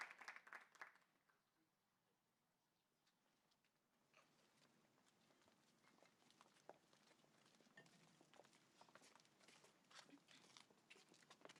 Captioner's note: applause